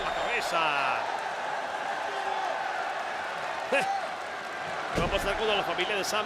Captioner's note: applause